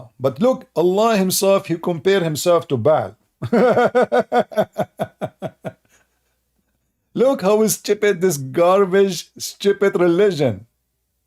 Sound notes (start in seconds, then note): 3.4 Ketawa